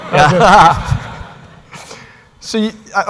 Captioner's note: laughter